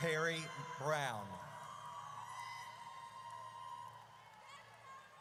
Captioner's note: audience cheers